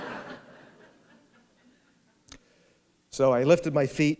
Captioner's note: laughter